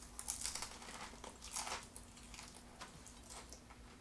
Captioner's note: food crunches